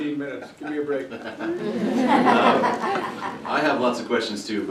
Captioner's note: laughter